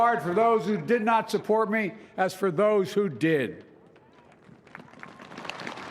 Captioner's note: applause